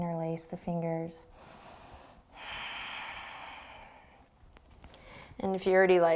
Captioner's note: deep breathing